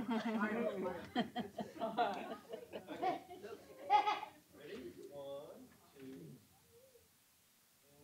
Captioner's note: laughter